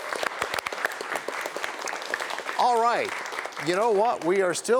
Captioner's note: cheers and applause